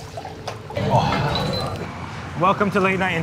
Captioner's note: food fizzing; moans